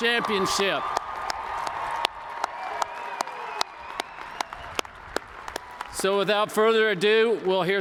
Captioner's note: cheers